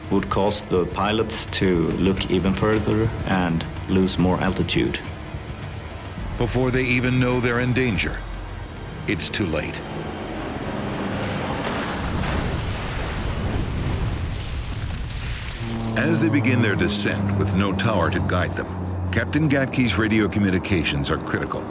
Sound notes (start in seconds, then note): 11.7 plane crashing